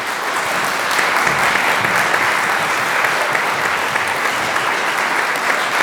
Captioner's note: applause